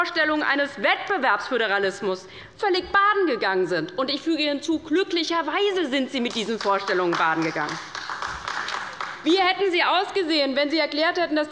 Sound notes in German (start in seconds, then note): 8.0 Beifall bei der LINKEN